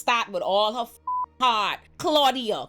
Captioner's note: beep